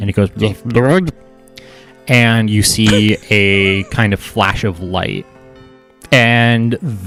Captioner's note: makes shorter burbly sound